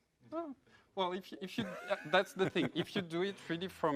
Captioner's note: laugh